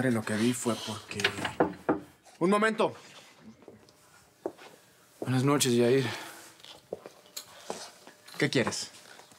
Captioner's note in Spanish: Toques en la puerta